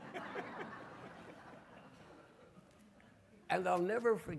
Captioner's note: audience laughing